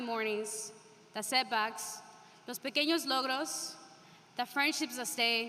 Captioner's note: speaking spanish